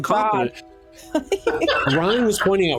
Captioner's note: laughing